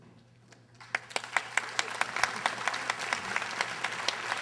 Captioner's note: audience applauding